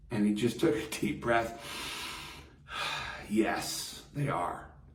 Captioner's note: inhales deeply